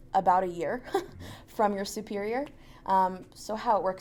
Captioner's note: laughs